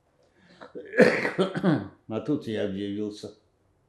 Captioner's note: coughing